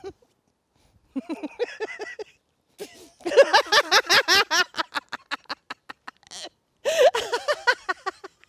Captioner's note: maniacal laughing